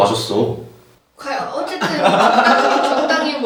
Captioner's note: murmuring